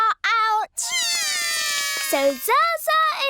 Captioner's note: both cry